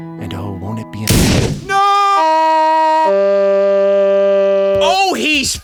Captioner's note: gun shot